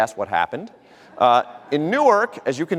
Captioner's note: audience laughter